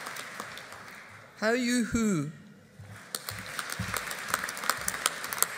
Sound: audience applauding

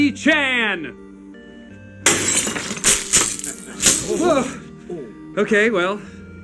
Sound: glass Breaking

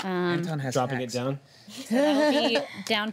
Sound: laughter

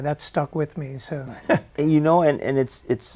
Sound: chuckles

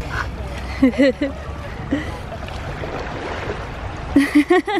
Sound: chuckles

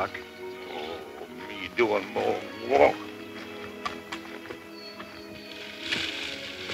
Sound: groans

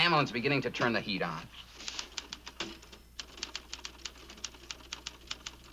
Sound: Ann typing briskly

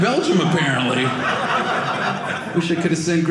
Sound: audience laughing

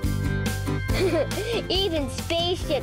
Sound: laughs

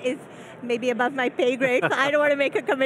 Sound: chuckling

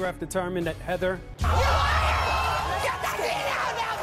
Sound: audience boos and yells

